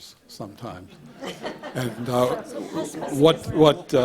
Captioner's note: audience laughs